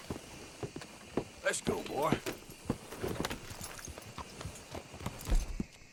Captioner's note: none